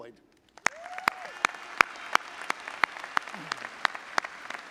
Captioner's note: audience applauding